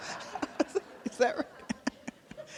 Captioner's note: laughter